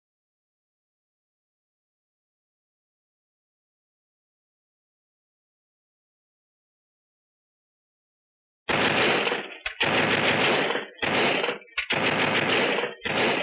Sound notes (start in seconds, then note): 8.6 gunfire; 8.7 machine gun fire